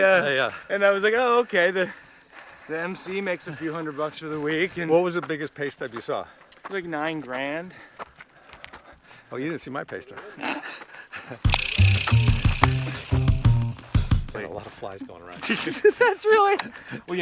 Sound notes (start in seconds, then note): 10.5 both laughing; 11.4 funky music; 14.6 laughs